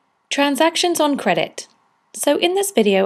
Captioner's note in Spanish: Voz en off